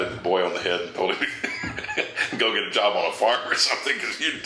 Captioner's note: chuckles